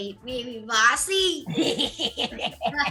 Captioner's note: laughter